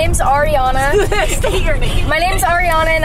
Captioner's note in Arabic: ضحكات خافتة